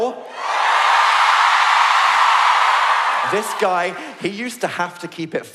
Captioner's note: audience cheering